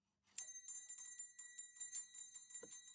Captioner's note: bells ringing